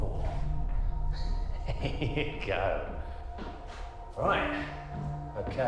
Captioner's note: laughs